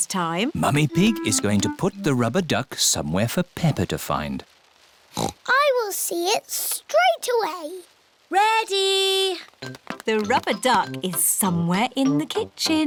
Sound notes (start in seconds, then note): 5.1 oinks